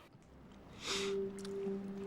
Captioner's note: sniffs